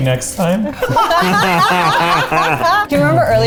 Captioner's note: everyone laughing